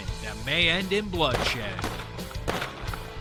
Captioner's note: gun shots